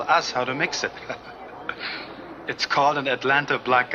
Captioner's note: waiter laughs